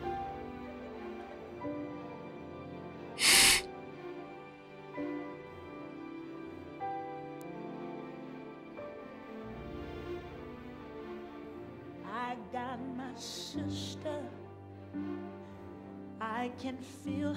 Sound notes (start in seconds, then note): 3.2 sniffles